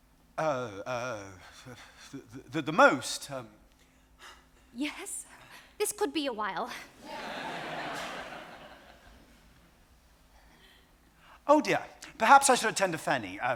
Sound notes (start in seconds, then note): 6.9 audience laughs